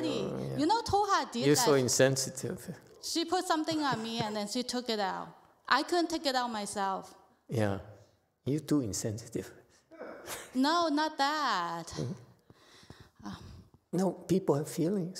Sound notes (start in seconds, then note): 8.7 laughs